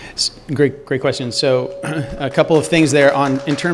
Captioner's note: applause